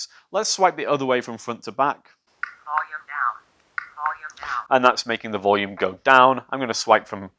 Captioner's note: camera says 'volume decrease'